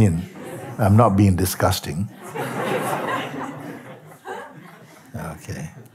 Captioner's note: Lachen